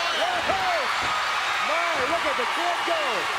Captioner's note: commentators exclaim